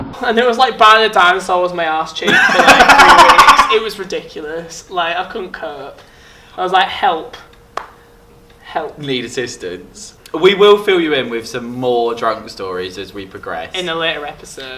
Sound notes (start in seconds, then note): 2.3 laughing; 7.3 slaps thigh